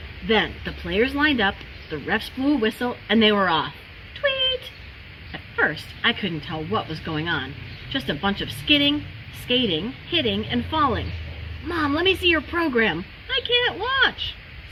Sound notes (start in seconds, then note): 4.0 tweet!